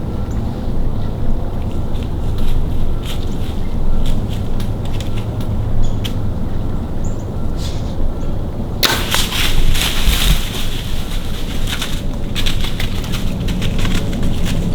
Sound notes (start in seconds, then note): 1.9 sound of walking; 8.8 sound of bowshot; 10.5 running in leaves